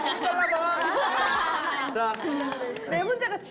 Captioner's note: laughing